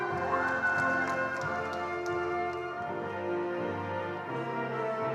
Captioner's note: attendees applauding